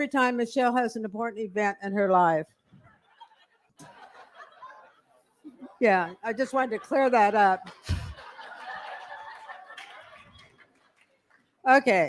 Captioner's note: laughter